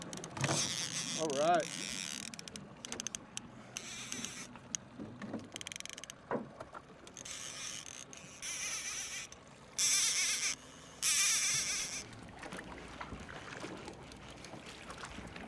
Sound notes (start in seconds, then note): 0.0 reel spinning; 5.0 gentle splashing; 7.0 reel spinning